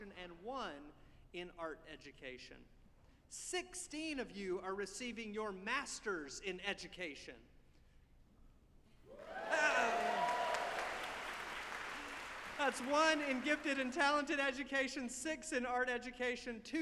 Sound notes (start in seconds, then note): 9.1 audience applauding